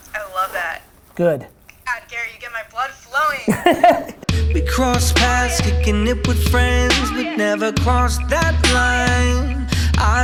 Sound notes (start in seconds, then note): 3.4 Gary laughs